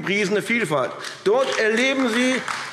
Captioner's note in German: Beifall AfD